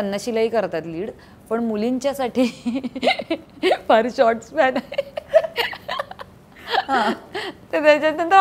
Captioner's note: Chuckles